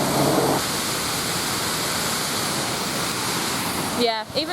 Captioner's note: splashing water